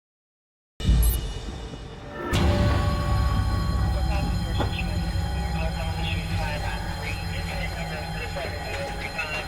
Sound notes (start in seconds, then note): 0.8 dramatic music playing; 1.8 alarm blaring